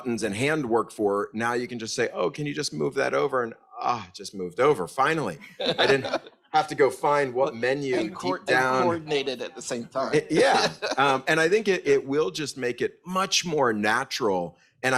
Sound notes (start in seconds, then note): 5.4 group laughs; 10.2 laughs